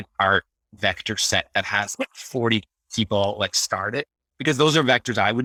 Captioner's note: laughing